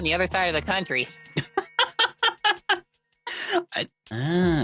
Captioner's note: laughing